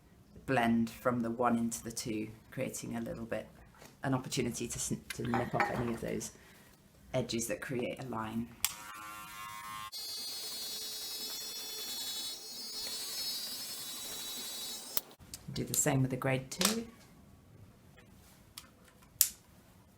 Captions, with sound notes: blend from the one into the two creating a little bit - an opportunity to nip off any of those edges that create a line [CLICK] [BUZZING] [CLICK] Do the same with the grade two [CLICK]